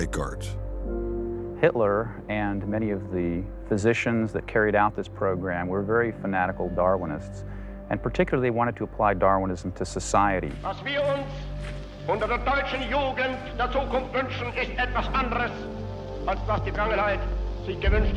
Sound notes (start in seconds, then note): 12.2 hitler speaking german